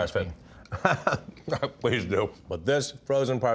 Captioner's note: Ming laughs